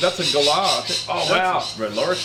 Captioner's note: bird quawks loudly